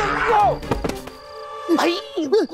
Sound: impact effect

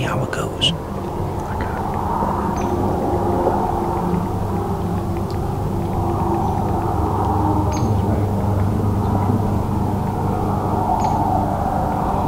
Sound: sound of distant road noise

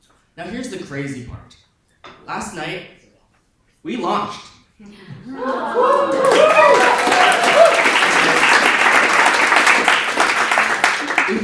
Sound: audience applause and cheering

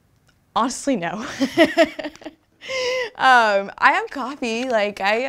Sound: both laugh

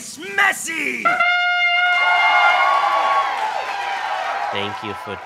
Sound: horn instruments, applauding and cheering

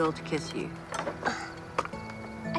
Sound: groans

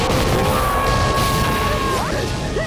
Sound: screaming

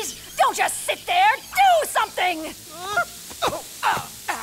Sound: coughing and groaning

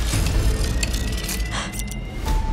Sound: gasps

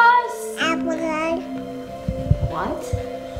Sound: babbling

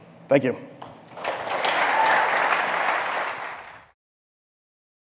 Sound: audience applauding

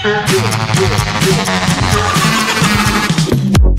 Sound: creepy laugh

